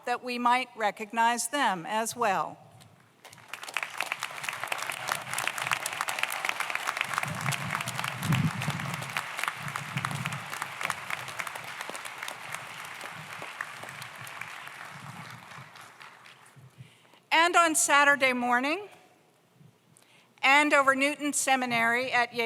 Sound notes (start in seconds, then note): 3.7 audience applauds